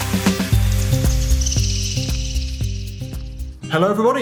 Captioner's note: birds chirping